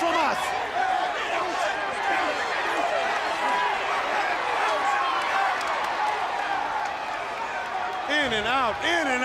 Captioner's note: crowd chatter